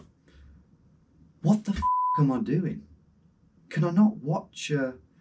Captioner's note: beep